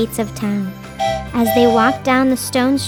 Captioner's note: train whistle blowing